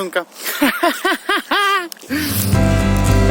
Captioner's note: laughing